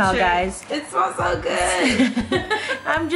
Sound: laughing

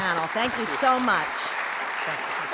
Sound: applause

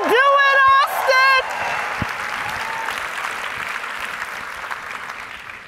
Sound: audience cheering

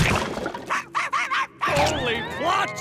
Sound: barking

